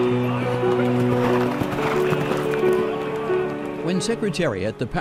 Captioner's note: piano music; horses galloping